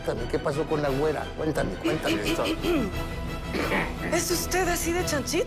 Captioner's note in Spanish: Güera carraspea